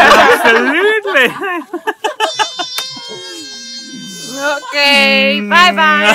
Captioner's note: baby crying